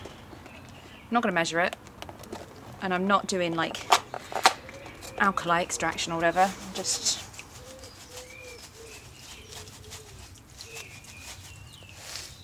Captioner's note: shakes box